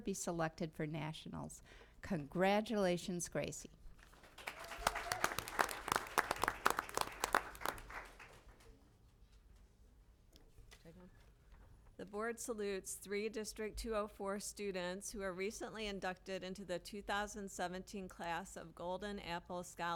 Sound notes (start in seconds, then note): 4.0 applause